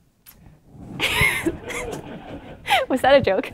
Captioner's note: laughter